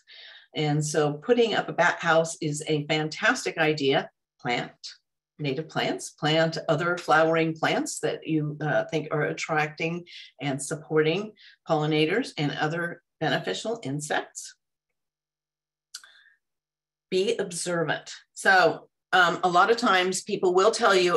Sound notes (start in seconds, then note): none